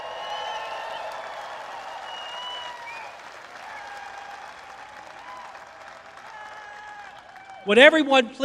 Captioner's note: applause